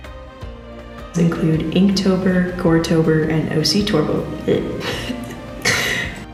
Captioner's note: giggle